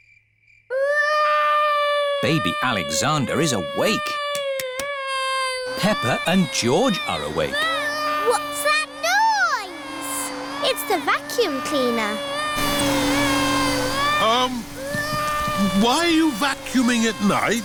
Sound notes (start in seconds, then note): 0.3 baby alexander crying; 7.8 vacuum cleaner whirring; 12.9 crying